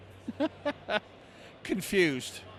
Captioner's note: laughs loudly